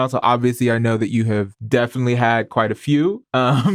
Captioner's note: chuckles